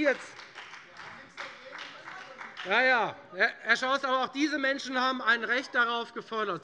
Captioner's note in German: Beifall bei der :Wir haben nichts dagegen!